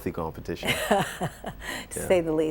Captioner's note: laughter